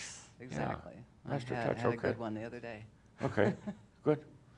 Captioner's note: she chuckles